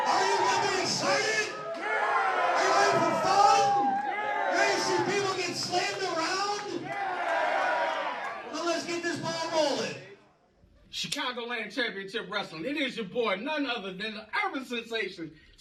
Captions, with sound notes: ARE YOU GONNA GET EXCITED? Are you ready for fun? Ready to see people get slammed around? [Crowd cheers] Well let's ball rolling. Chicagoland Championship Wrestling it is your boy none other than the urban sensation